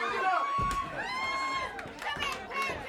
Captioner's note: loud smack; audience hollers